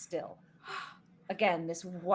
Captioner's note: gasping